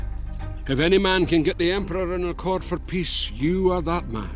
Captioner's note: Voz en off